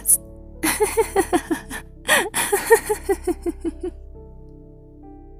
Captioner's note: laughs